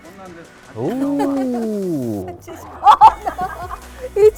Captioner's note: laughing